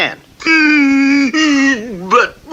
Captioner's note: King Cup stops crying